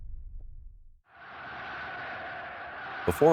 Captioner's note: people cheering